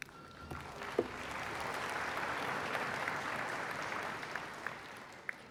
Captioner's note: applause